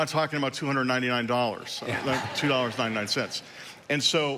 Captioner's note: congregation laughing